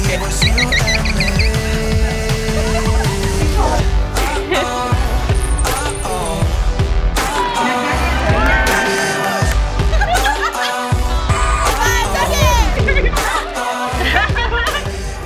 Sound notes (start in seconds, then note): 2.4 girl laughs; 9.7 group laughing; 11.7 girls speaking Korean; 14.2 girls laughs